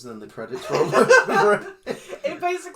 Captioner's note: laugh